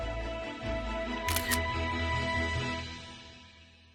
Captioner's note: camera shutter sound